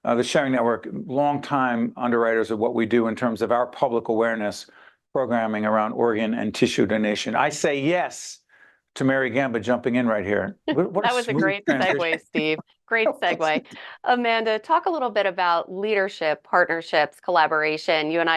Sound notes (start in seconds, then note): 13.5 laughing